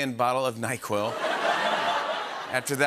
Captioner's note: laughter